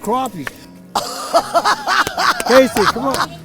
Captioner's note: laughing